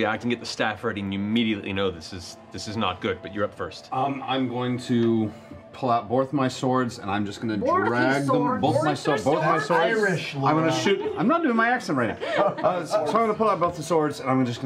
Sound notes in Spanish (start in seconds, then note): 8.7 imitándolo